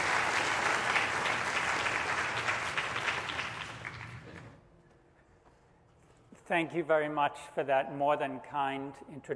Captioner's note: applause